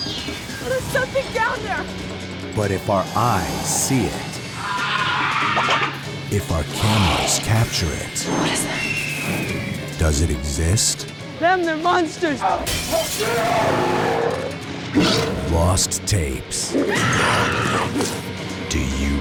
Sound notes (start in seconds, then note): 4.5 shrieks; 12.5 growls; 12.6 glass shatters; 16.9 woman screams